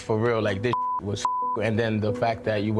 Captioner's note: beep